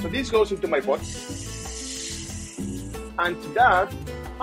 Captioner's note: pot sizzling